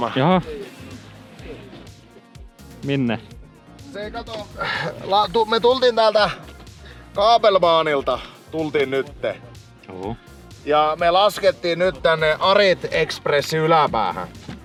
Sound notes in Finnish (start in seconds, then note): 4.5 hengähtää